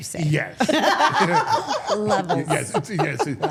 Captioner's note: all laughing